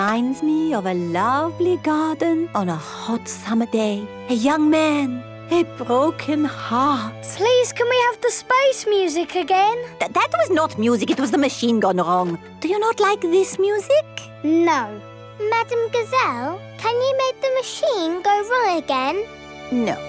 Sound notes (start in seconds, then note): none